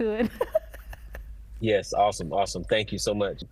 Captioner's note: chuckles